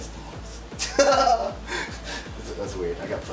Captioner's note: laughs